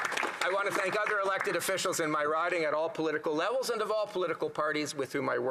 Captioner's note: some Applause